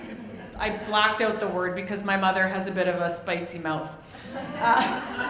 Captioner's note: audience laughs; audience laughs